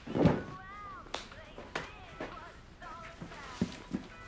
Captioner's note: hands smacking